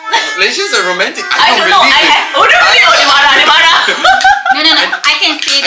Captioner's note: laugh